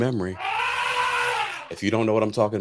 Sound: elephant trumpets

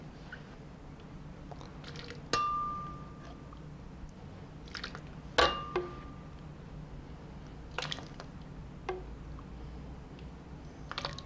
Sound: pouring sounds

